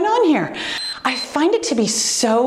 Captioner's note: timer beeps